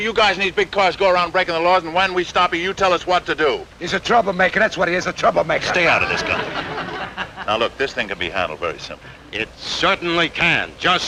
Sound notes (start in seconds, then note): 5.5 audience chuckling